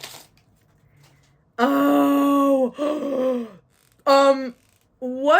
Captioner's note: gasp